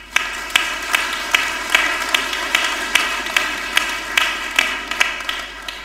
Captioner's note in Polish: oklaski